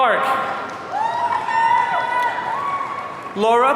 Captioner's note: audience cheering